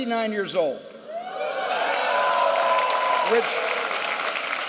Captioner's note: applause and cheering